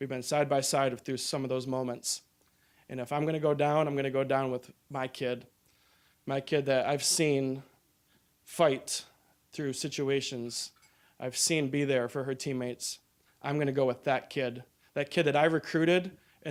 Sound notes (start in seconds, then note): none